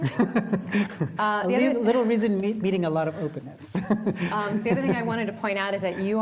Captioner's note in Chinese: 笑聲; laughter